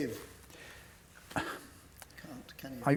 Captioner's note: exhales